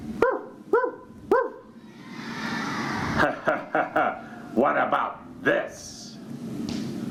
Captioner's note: laughter